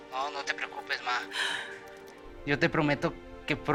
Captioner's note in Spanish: Sollozos